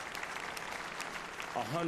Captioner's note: applause